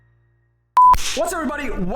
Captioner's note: beeping